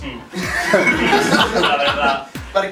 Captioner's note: laughs